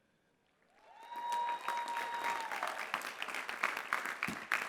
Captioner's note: clapping